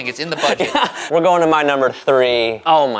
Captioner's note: laughing